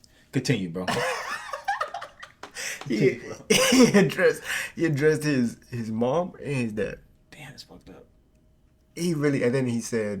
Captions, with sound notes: - Continue, bro. (laughing) - He addressed his mom and his dad. - Damn, that's fucked up. - He really, and then he said,